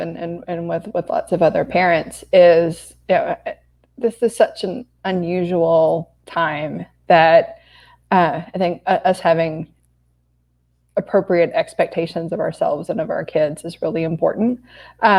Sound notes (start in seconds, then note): none